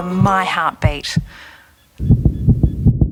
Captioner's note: rapid heartbeat